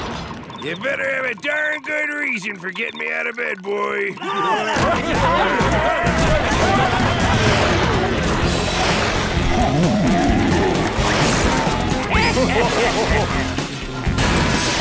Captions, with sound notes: You'd better have a darn good reason for getting me out of bed, boy. [laughing] [laughing]